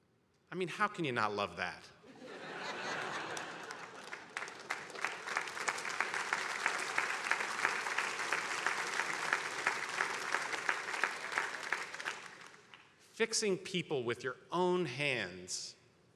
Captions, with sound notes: I mean, how can you not love that? (attendees laughing) (attendees applauding) Fixing people with your own hands?